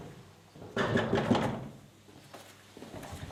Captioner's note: knocking on doors